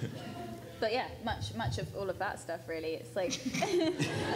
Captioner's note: laughs